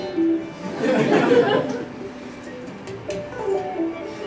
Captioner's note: laughter